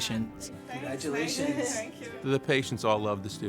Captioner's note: background conversations